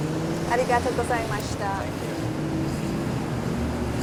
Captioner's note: speaks japanese